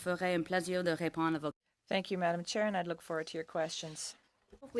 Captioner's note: speaking in French